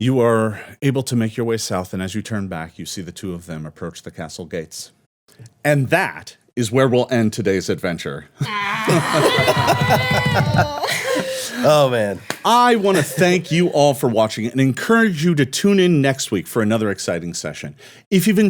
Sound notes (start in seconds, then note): 8.4 cheering and laughing